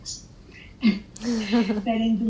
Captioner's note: laughing